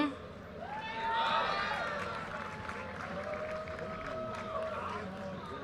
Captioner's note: audience cheers and applause